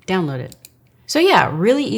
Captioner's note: computer mouse clicking